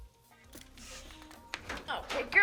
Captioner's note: April snorts; camera clicks